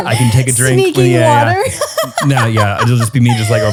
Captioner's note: laughs